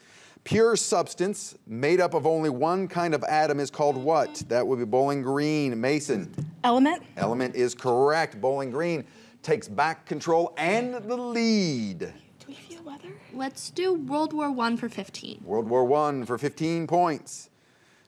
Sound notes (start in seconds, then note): 3.8 buzzer beeps